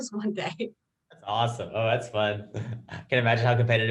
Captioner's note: chuckles